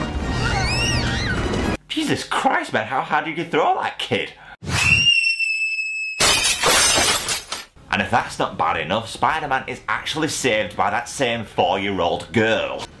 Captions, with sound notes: Jesus Christ, how hard are you gonna throw that kid? *child screams* *crashes into glass* and if that's not bad enough Spider-Man is actually saved by that same 4 year old girl.